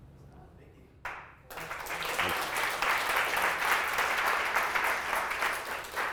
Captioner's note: audience applauds